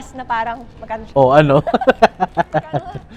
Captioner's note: laughs